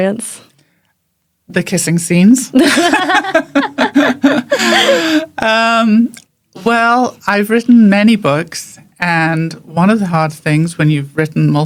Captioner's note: laughs